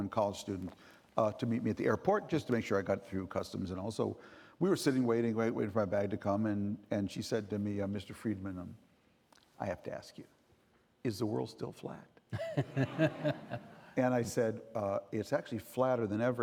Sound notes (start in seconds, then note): 12.4 audience laughing